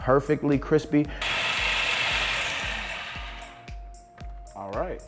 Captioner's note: blender whirring